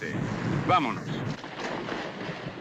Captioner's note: in spanish